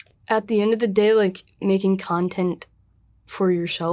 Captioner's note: none